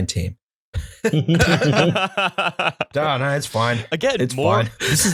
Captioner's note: laughter